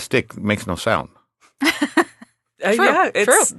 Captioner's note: laughing